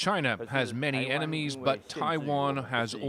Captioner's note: speaking alternate language